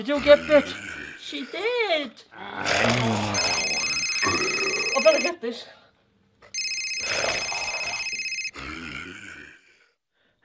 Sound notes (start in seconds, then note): 2.3 growls; 3.3 phone rings